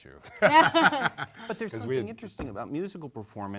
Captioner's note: panel laughs